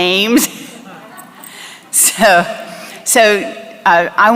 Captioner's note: laughter